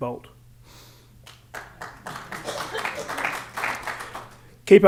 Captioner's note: applause